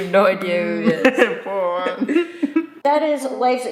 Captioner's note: both chuckling